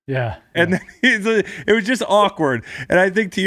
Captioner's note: laughs